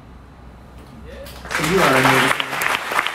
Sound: audience applauds

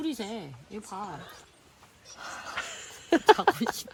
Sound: yawn

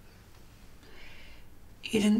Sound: inhales

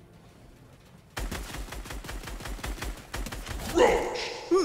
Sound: gun banging

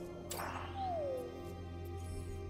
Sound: sad woop

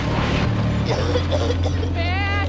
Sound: Misty coughing

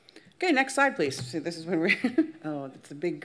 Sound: laughs

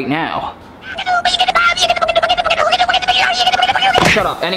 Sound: cartoonish rambling

